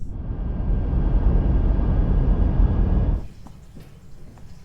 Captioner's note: engine rumbling; water dripping